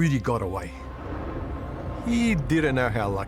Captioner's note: jet engine roaring